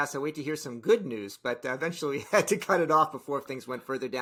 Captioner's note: chuckles